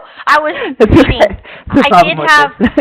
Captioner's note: chuckling